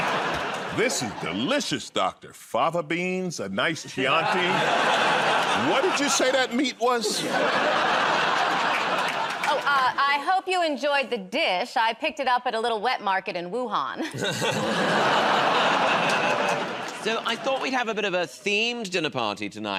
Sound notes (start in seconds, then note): 0.0 laughter; 7.3 laughter; 14.3 audience groans